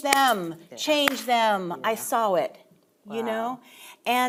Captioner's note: palms slapping